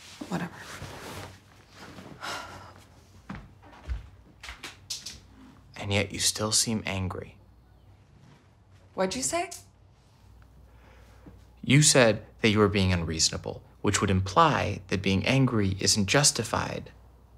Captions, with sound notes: - Whatever. (Sam sighs) - And yet you still seem angry. - What'd you say? - You said that you were being unreasonable, which would imply that being angry isn't justified.